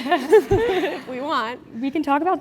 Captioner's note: laugh